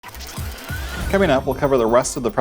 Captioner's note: electronic whirring